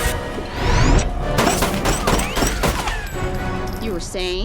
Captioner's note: suspenseful music; gun firing